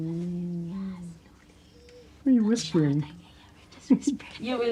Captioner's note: whispers